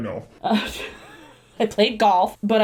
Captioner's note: laughing